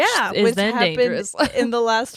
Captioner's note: laughs